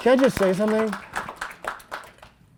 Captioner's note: applause